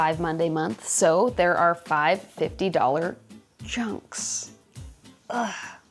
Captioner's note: groans